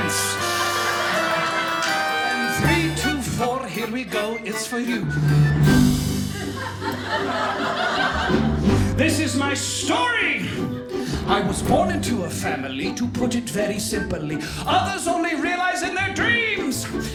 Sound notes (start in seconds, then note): 0.0 audience laughing; 6.0 audience laughing